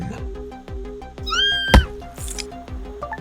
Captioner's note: shrieks